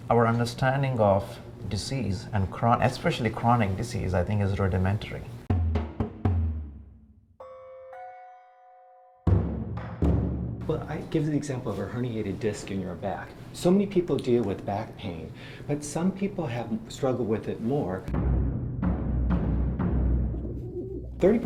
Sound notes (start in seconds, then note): 5.4 tense drumming music; 7.4 bells clanging; 18.0 tense drumming music